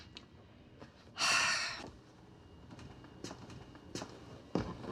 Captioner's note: Mama exhales